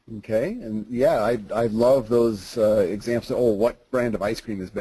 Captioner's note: voiceover